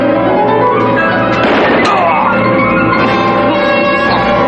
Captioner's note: gunshot; men shouting in native language